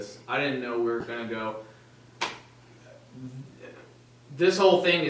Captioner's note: slaps his leg